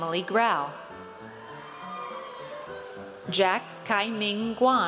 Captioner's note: audience cheers